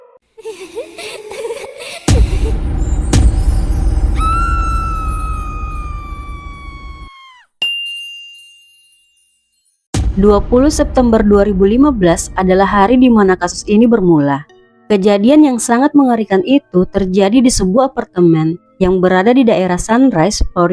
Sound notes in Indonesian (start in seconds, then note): 0.4 tertawa; 4.2 berteriak